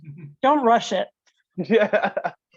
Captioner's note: laughs